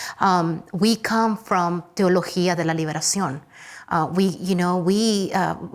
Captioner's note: speaks Spanish